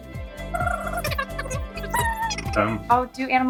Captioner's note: animalese sound